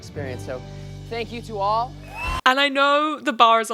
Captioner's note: audience cheer